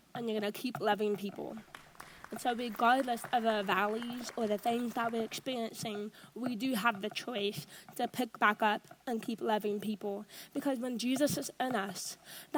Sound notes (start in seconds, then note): 1.6 audience applauds